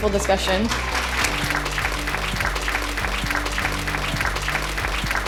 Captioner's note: applause